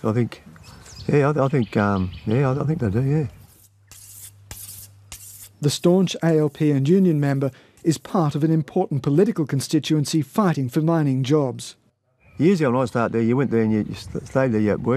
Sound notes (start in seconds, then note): 3.5 knife sharpening